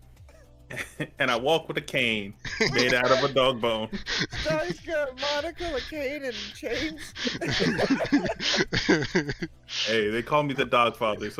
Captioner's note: laughter; more Laughter